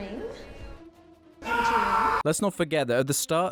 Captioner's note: screaming